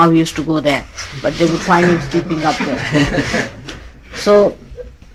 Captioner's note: laughs